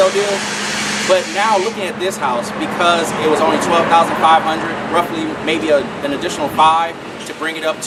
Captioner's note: car noise